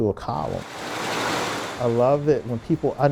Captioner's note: machines buzzing